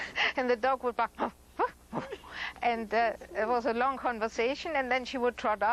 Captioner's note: makes dog sounds